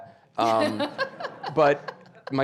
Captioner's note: audience laughing